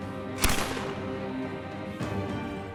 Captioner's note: gunshot